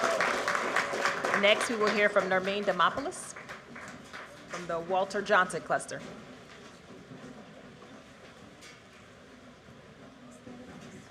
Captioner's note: cheers and applause